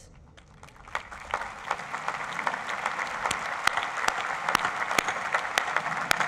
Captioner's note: applause